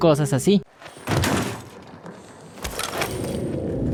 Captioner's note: door opening